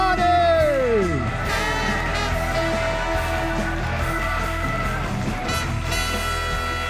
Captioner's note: audience cheers; upbeat music